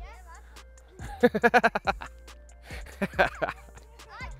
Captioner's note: laughs